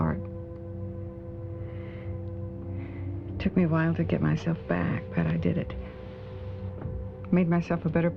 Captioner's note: sighs